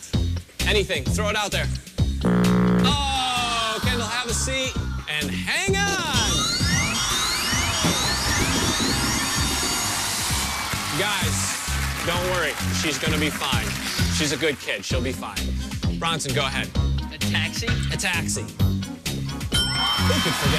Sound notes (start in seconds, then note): 2.2 buzzer rumbling; 6.2 alarm sounding